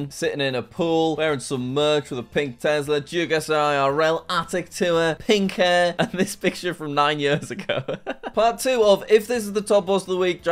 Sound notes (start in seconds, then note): 7.1 laughs